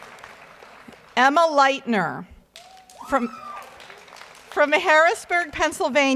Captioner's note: audience member shouts